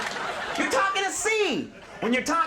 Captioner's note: audience laughing